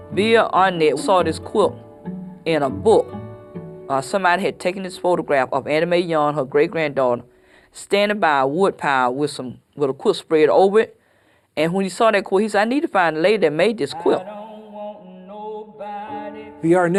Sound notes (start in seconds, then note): none